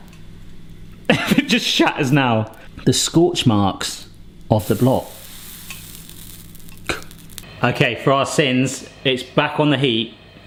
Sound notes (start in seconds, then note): 4.6 block crackling